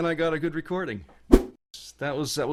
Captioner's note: whoosh